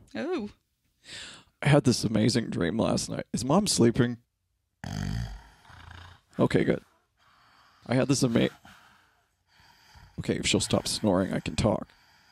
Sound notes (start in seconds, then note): 4.8 snoring